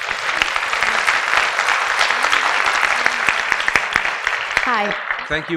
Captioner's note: audience applause